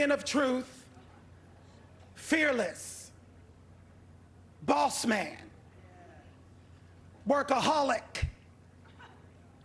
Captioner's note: laughter